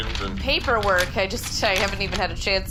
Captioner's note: papers rustling